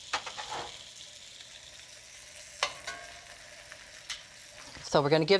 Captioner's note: sizzling